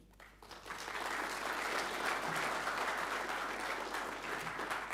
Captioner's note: audience applauding